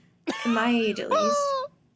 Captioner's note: laughs